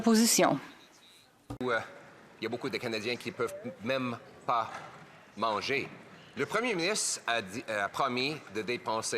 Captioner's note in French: voix de l'interprète